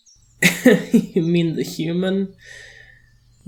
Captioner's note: laughs